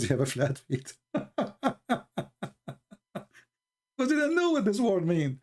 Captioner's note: Ketawa